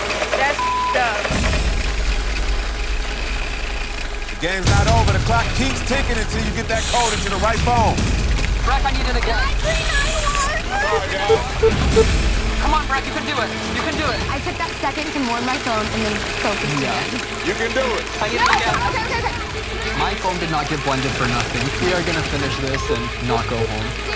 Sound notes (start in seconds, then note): 0.5 beep; 10.8 beeps